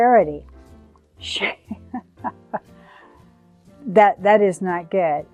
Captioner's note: chuckles